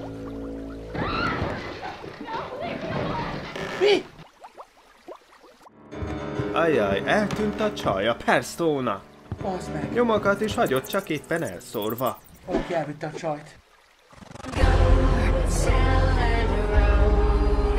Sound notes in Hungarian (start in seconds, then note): 0.9 sikoly